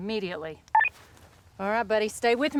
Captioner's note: radio beeping